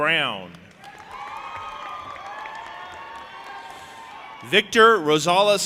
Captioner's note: audience applauding and cheering